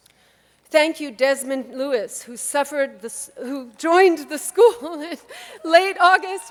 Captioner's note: laughs